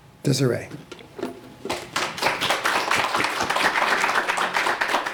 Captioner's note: applause